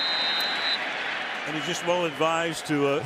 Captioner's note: whistle blows